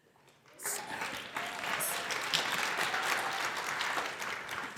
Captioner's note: crowd applauding